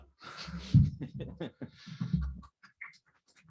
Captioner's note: chuckles